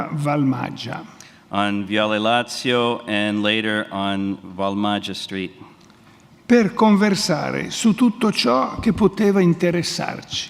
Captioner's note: speaks in Italian; speaks in Italian